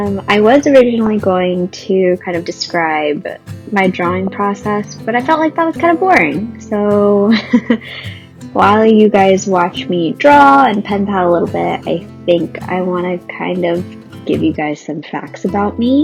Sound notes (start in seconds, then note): 7.3 laughs